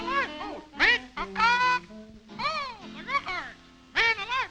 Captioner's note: bird calls